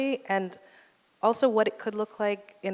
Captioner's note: none